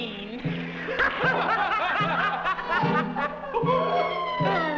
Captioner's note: all laughing